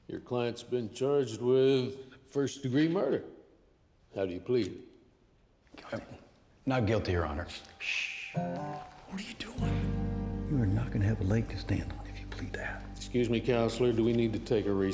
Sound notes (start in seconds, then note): 5.6 whispering